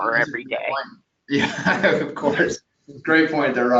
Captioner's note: laughs